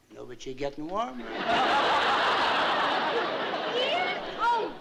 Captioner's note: laughter